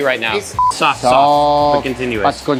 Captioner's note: beep